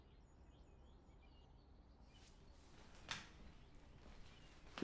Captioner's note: birds chirping